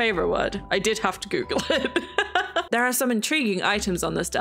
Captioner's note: laughs